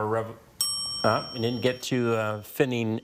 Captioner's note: bell dings